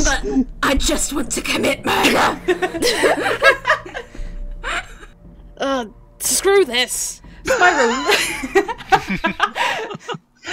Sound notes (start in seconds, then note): 0.2 Cynder voice; 2.5 laughter; 7.5 laughter